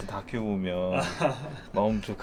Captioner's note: laughs